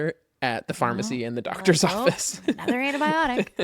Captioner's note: laughs